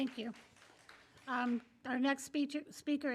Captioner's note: applause